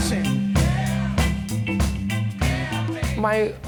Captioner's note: crowd